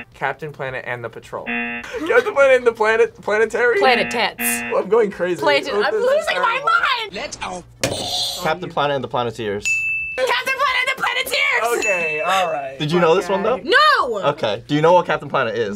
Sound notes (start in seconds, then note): 0.0 buzzer rings; 1.4 buzzer rings; 3.8 buzzer rings; 7.9 buzzer rings; 9.6 bell rings; 11.6 bell rings